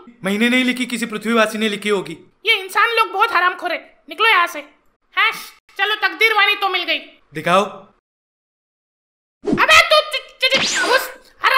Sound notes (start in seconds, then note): none